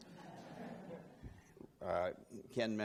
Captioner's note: laughing